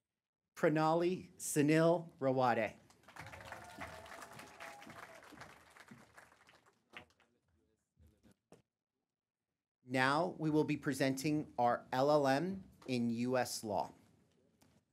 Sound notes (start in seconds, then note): 0.0 applause